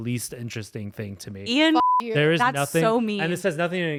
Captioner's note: beep